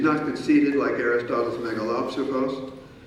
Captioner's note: speaking in foreign language